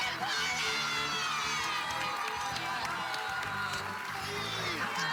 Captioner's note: lauaughghteter